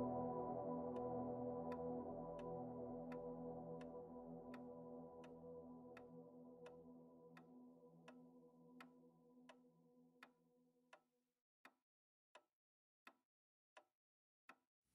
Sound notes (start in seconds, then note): 2.9 clock ticking